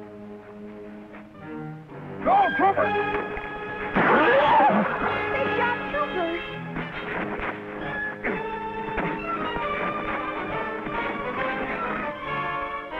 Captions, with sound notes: - Go, Trooper! (gun fires) (Trooper neighs) - They shot Trooper. (tense music)